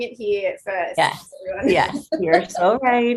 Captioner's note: laughing